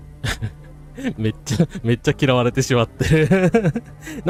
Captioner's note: laughter